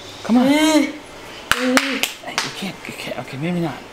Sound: clapping

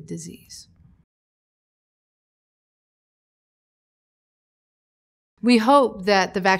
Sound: silence

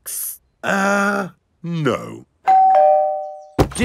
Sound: doorbell rings

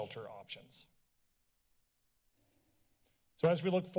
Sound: silence

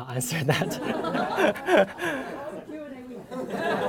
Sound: laughter

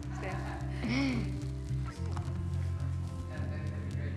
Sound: gasping

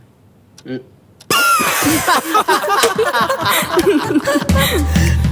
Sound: laughs

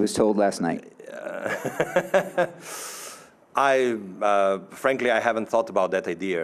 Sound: laughing

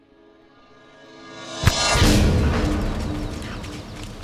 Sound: air whooshing

